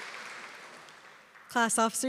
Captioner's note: applause